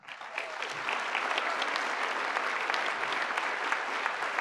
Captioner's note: applause